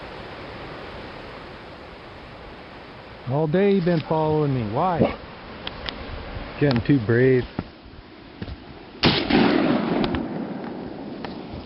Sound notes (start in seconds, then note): 9.0 gun shot